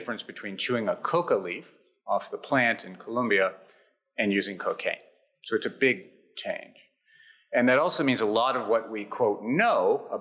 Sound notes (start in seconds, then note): none